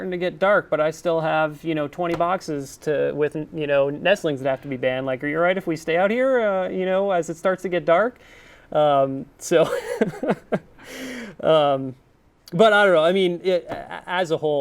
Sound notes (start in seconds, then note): 9.6 laughs